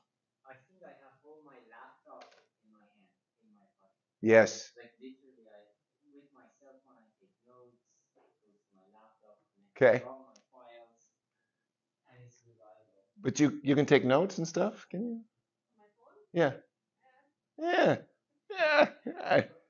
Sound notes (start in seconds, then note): 9.7 faintly speaking